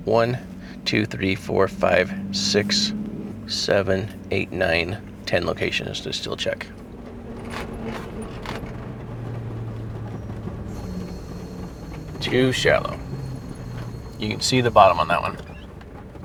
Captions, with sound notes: one, two, three, four, five, six, seven, eight, nine, 10 locations to still check. (vehicle rattling) Too shallow. You can see the bottom on that one.